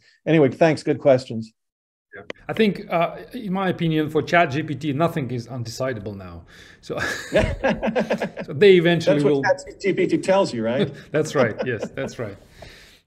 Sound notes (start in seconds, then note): 7.0 everyone laughing